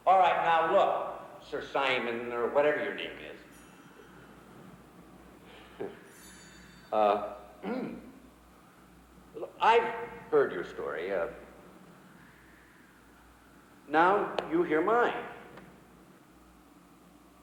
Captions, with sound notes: All right, now, look, Sir Simon, or whatever your name is. (John chuckles) Uh. (clears throat) I've heard your story. Now you hear mine.